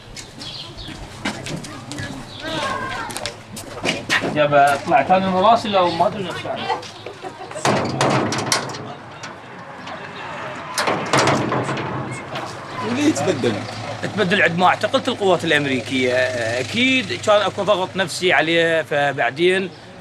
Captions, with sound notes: [Arabic spoken audio] Why did he change? He changed when the Americans put him in prison.